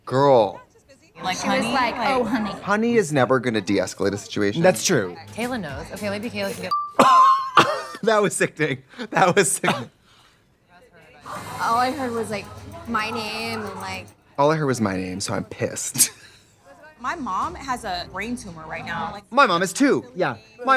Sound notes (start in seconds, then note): 7.2 both laugh; 15.9 Katya laughs